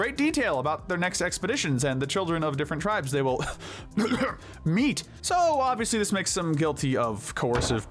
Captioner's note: ahem